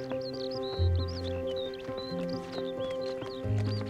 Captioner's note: birds chirping